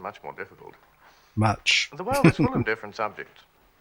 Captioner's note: chuckling